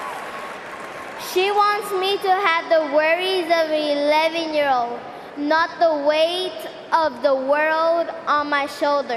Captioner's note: cheering and applause